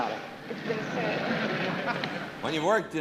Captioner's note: laughs